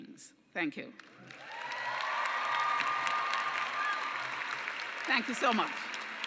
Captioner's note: cheering and applause